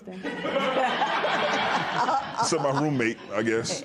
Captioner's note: laughter